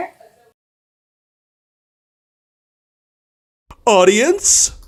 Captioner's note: awkward silence